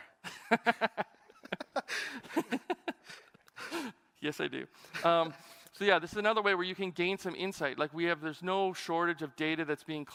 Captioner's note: laughter